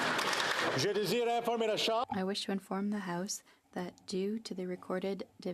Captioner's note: applause